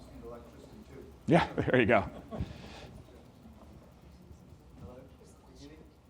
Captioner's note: all laugh